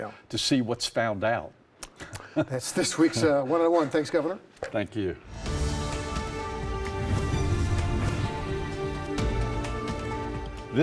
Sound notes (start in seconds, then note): 5.2 dramatic music; 6.8 air swooshes